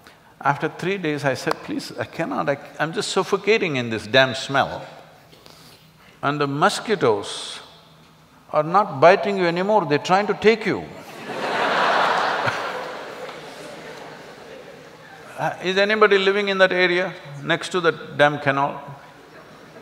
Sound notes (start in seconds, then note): 13.8 laughter